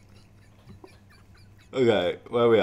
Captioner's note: laughing